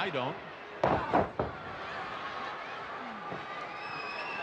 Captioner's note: crowd yelling